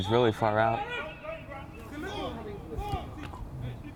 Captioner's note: whistle